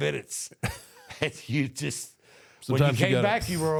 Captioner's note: The Undertaker chuckles